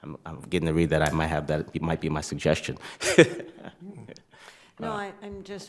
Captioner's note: laughs